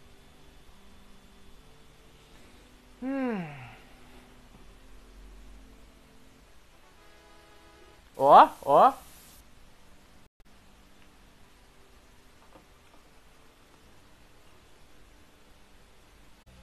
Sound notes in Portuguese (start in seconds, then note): 3.0 suspiro